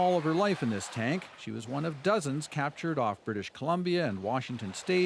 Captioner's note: cheering